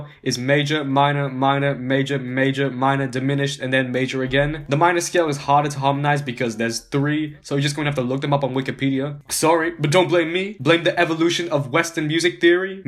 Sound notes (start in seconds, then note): none